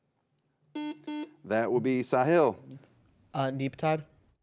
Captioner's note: buzzer beeps